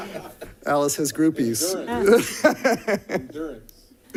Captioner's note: laughter